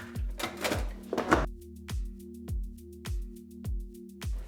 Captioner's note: dishwasher clatters